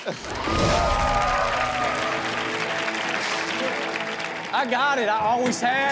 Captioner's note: audience cheering and clapping